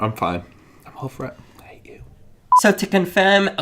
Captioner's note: whispers